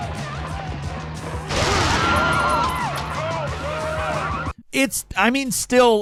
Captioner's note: crowd screams; gun blasting